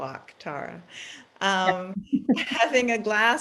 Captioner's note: laughs